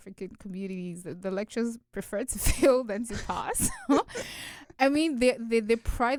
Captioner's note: both chuckle